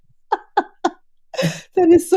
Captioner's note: laughing